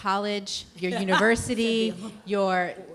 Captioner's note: laughing